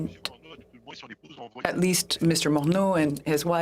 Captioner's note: speaking French